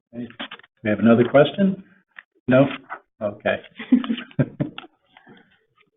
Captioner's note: laughs